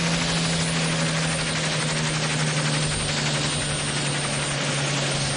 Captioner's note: helicopter motor